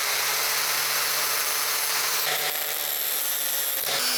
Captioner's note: drill whirring